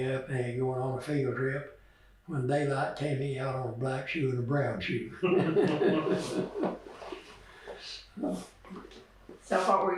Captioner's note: laughs